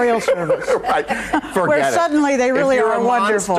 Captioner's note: laughs